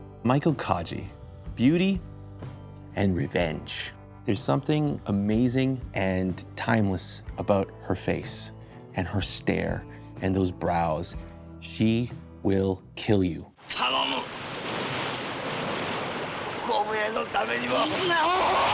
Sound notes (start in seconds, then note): 13.5 speaking in foreign language